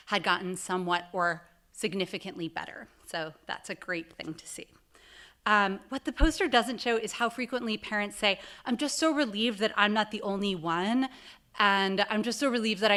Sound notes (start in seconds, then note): none